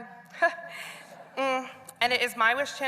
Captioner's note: laughter